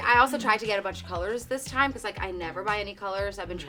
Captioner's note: none